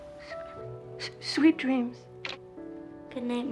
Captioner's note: stutters; receiver clicking